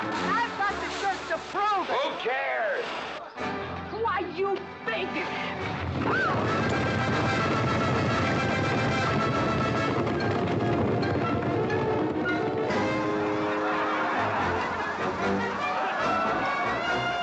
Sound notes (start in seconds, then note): 5.7 hooves pounding; 6.1 Katherine screams; 12.7 crowd laughing